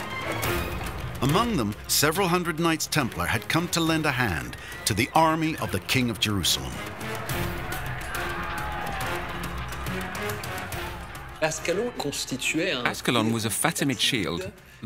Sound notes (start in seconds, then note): 7.3 dramatic music; 9.7 distant shouting